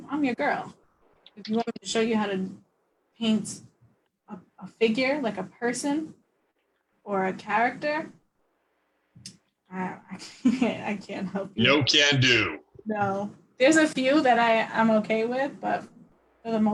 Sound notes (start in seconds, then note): 11.6 laughs